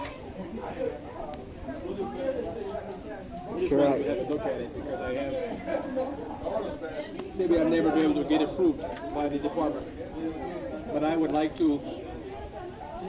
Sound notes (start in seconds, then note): 6.1 crowd murmuring